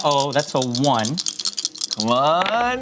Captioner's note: dice clattering